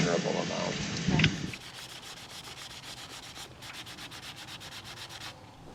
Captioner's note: sandpaper scrapes on metal